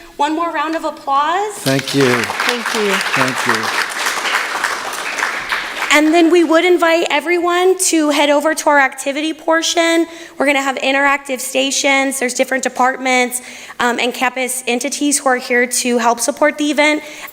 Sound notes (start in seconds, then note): 4.6 applause